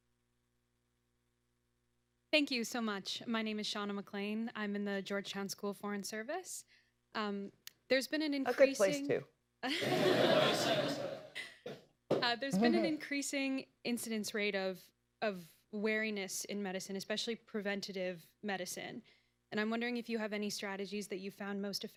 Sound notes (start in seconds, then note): 9.6 laughter